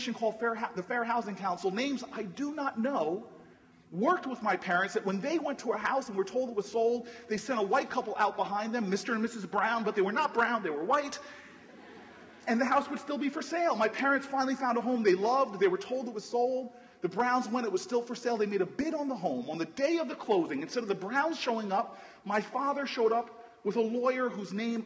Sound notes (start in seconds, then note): 11.5 laughter